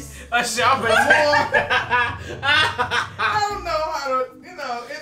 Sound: laughing

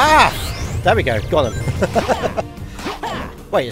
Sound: laughter

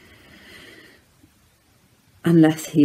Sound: deep breath

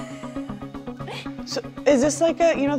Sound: laughs

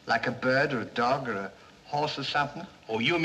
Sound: none

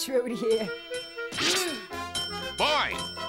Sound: bell ringing

